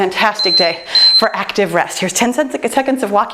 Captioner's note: timer beeps